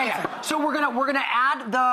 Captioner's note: audience laughter